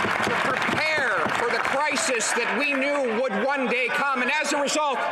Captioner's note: some Applause